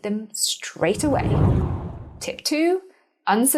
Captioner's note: air whooshing